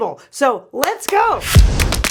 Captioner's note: claps; upbeat music